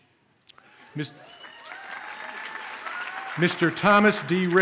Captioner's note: audience cheers and applauds